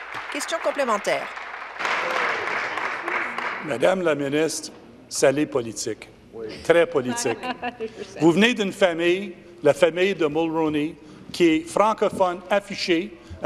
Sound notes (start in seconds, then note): 0.0 applause; 7.5 speaking in French